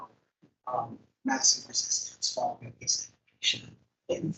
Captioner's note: microphone cuts out